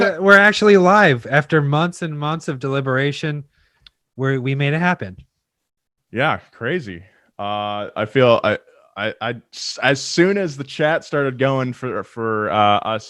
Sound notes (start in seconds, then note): none